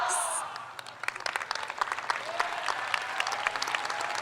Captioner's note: crowd applauds